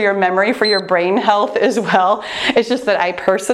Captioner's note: timer beeps